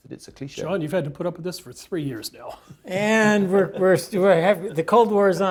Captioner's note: laugh